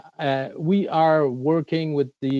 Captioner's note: speaking French